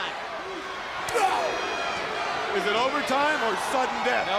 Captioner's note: crowd chatter